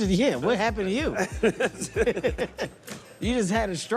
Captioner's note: laughter